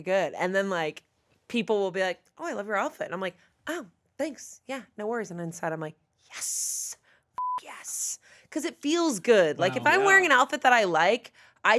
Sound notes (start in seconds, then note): 7.4 beep